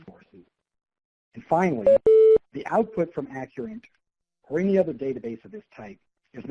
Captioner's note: computer tone